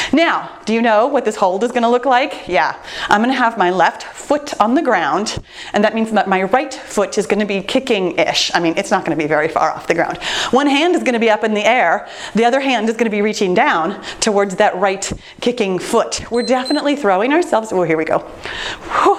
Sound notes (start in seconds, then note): 16.3 timer beeps; 18.9 laughing